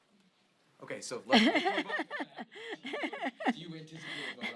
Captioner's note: Nancy laughs